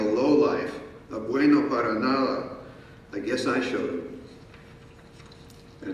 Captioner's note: speaking in foreign language